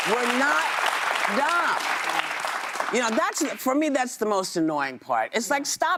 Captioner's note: applause